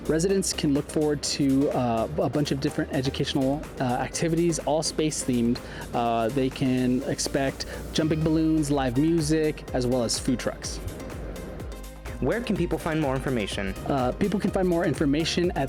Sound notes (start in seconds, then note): 10.5 air whooshing; 10.9 upbeat music